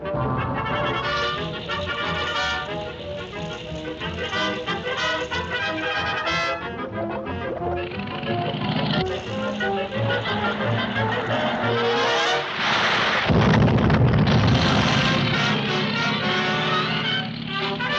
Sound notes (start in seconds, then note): 0.0 light dramatic music; 0.0 timer clicking; 8.0 engine rumbling; 8.0 suspenseful music; 11.8 water splashing; 12.5 explosion booms